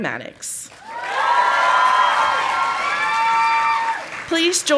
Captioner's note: audience applauding